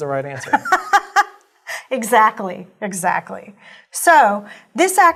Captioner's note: laugh